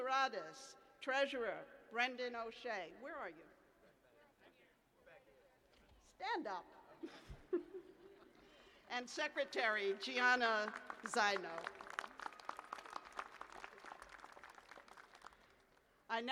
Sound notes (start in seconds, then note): 6.7 laughter; 14.2 applause